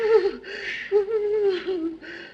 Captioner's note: crying slows